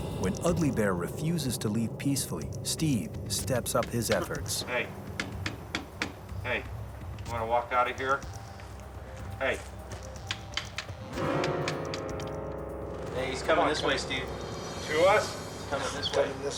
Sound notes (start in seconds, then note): 3.7 gun tapping; 10.2 gun tapping